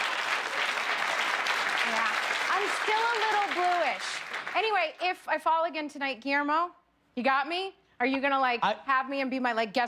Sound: applause

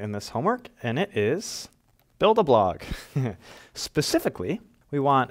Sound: chuckle

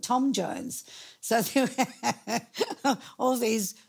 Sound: laughing

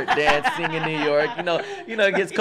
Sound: all laugh

